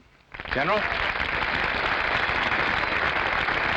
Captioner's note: audience applauding